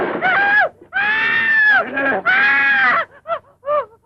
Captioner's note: screaming; gasping